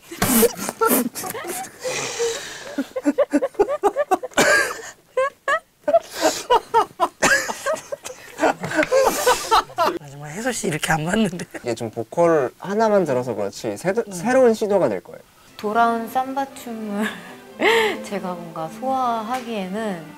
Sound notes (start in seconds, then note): 2.7 laughing helplessly